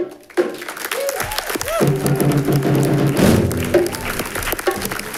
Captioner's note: all clapping